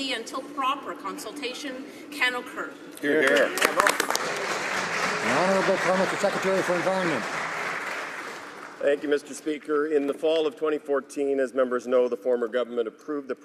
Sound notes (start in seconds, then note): 5.9 some Applause